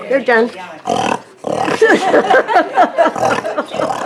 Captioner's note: man oinks